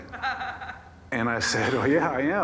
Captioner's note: man laughs